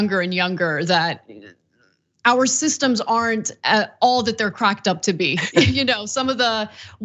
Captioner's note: laugh